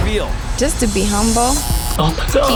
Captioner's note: buzzer buzzing